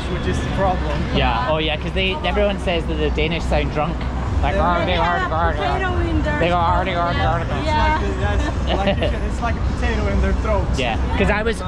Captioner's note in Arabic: يحاول التحدث باللغة الدنماركية